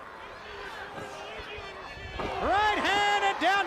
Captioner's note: crowd chatter